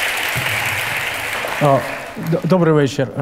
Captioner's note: the audience cheers